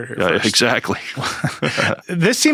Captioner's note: laughs